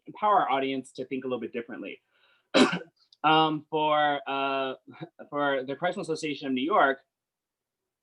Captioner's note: coughs